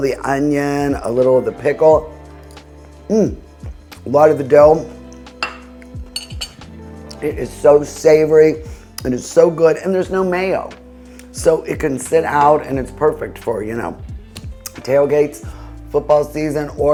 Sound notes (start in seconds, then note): 2.2 soft gentle music; 5.4 plate clinking; 5.4 slow gentle music